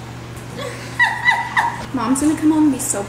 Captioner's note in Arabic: تضحك